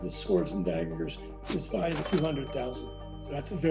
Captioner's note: bell ringing